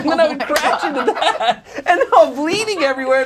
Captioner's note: audience laughs